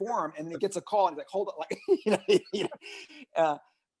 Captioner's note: laughs